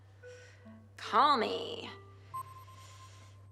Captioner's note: system beeps